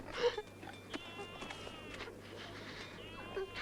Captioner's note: Tracima sobs